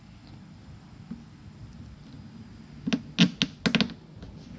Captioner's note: plastic rumbling